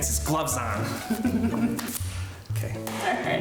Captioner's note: chuckles